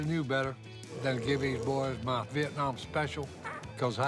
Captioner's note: loud burp